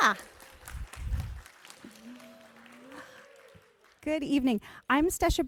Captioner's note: audience applauding